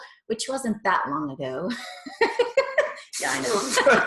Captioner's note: laughing